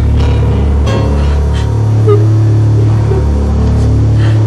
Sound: dreadful music playing; sobbing

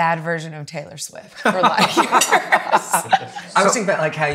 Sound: laughs

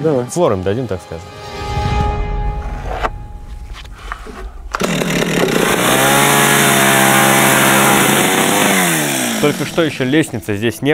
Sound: sawing sounds

